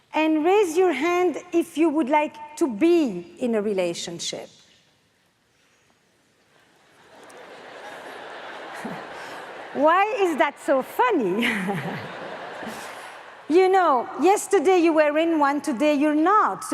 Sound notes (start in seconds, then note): 6.8 audience laughs; 11.4 everyone laughs